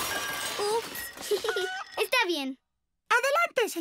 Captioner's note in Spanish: riendo